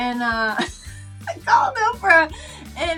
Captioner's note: laughing